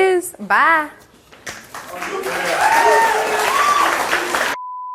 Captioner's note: audience applauds